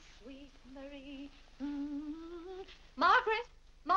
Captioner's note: Vinnie hums